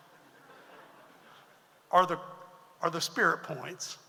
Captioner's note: audience laughs